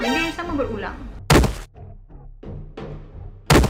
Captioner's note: slam